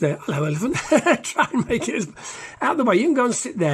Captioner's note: laughs